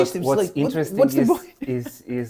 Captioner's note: laughs